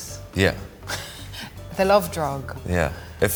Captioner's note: Jessie chuckles